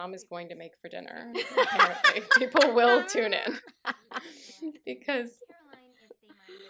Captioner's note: laughter